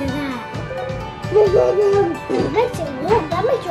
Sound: baby coos

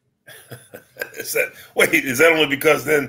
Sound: laughs

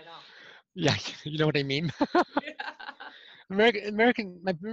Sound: laughter

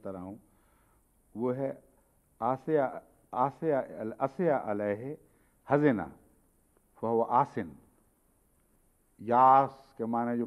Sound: Arabic

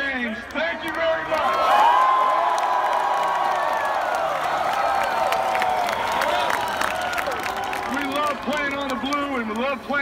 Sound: applause

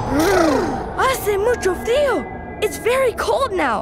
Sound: speaking foreign language

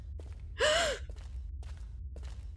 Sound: gasps

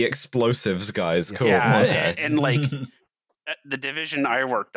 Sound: laughter

